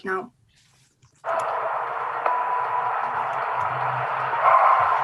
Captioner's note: cheering